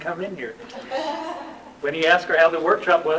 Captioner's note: laughter